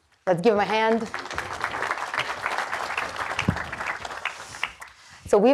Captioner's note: audience clapping